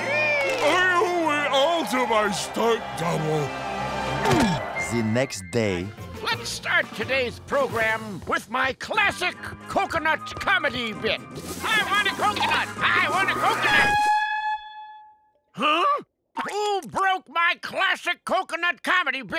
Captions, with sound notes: I owe it all to my stunt double. Let's start today's program with my classic coconut comedy bit. I want a coconut! I want a coconut! [air horn blaring] Huh? Who broke my classic coconut comedy bit?